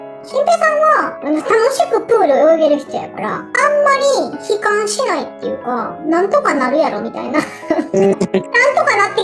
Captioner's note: laughs